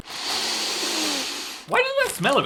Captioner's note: sniffs bag sharply